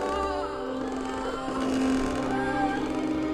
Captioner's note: children groaning